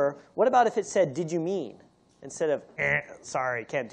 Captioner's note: imitates buzzer